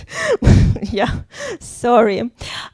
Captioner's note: laughs